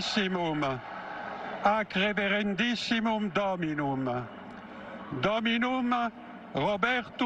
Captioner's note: cheering